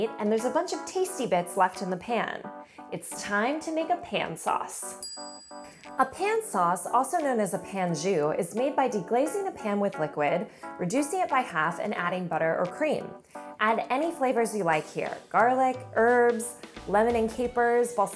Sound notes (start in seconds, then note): 5.0 bell dinging